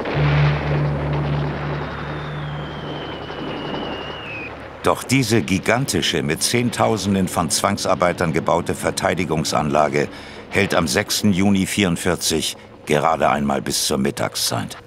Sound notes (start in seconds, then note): 0.1 Krachen; 2.3 Pfeifen einer Bombe